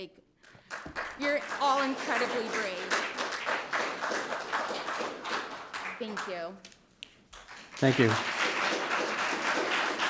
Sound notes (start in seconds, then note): 2.9 audience applauding